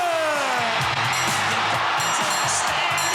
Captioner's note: audience cheering